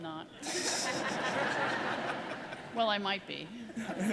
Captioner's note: audience laughing